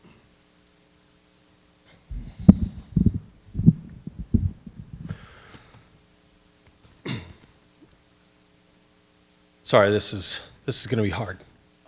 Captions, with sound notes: (microphone rattling) (attendee coughing) - Sorry, this is gonna be hard.